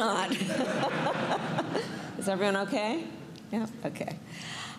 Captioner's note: laughter